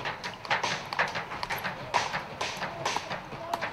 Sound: continuous hammering noise

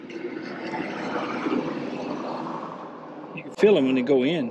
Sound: cars driving

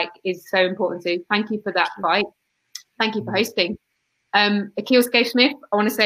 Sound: erm

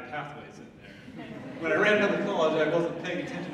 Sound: audience laughing

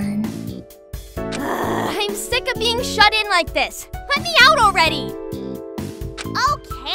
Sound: groan

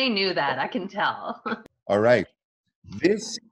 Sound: chuckling

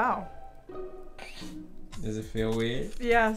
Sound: laughs

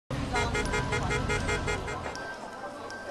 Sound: traffic/Street noises

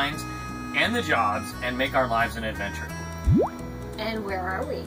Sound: silly sound

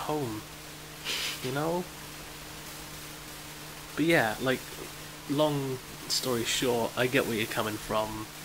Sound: laughs

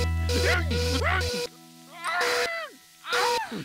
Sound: whining, hooting

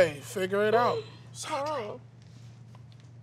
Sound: whispers

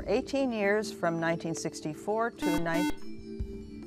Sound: buzzer

